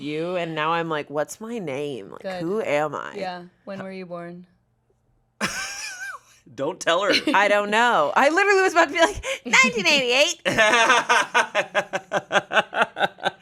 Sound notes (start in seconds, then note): 5.4 laughs; 10.4 laughs